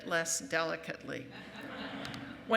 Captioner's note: laughing